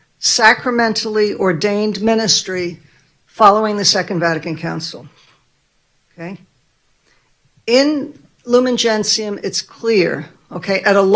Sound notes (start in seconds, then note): none